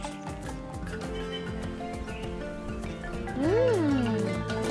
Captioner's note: birds chirping